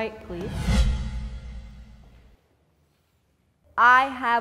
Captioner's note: dramatic whooshing